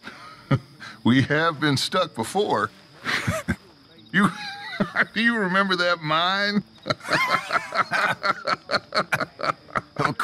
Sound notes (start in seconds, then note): 3.0 laughs; 4.2 Dutch laughs; 6.5 laughs; 6.7 both laugh